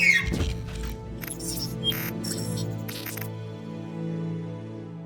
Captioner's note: gunshot followed by shrieking noise; robotic beeps fade away